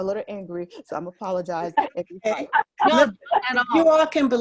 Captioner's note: laughter